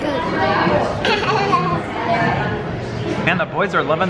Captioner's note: laughing